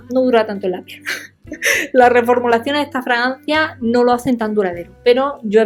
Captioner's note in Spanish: risas